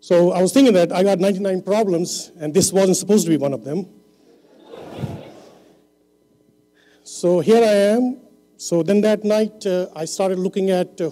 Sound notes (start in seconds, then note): 4.4 laughter